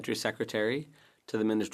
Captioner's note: speaking French